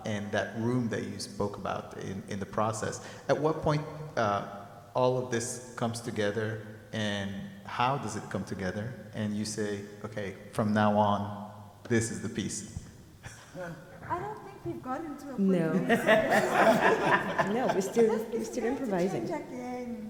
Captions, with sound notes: and that room that you spoke about in the process, at what point, all of this comes together, and, how does it come together, and you say, okay, from now on, this is the piece? - I don't think we've gotten to a point-- - No. (people laugh) No, we still, we still improvising. - This thing